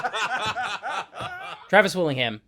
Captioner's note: laughter